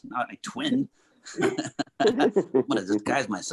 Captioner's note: Clifton laughing